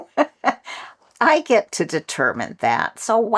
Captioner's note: laugh